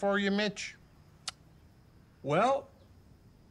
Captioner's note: Mitch clicks tongue